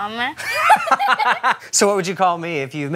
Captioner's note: laughs